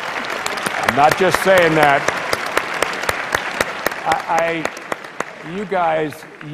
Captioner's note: applause